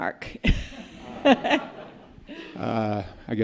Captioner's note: laughter